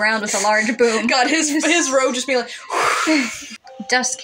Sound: whoosh; chuckle

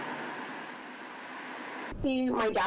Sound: nat of cars driving b

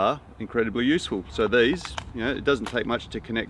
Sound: palm sheath crackles

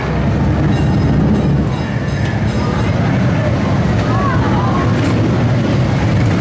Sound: low rumble of motorcycles

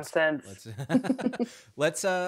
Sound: both laughing

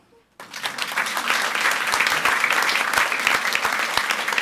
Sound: audience applauds

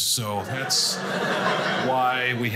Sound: audience laughing

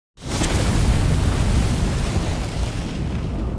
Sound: flames sizzling

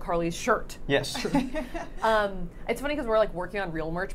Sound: laughing

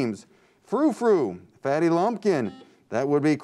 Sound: chime

